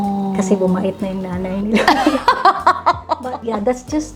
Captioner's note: laughter